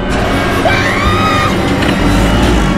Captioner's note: Leah screams